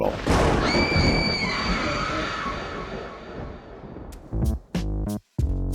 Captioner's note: thunder, echoey screams, and spooky ghost laughter